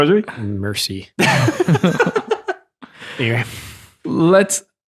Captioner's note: laughing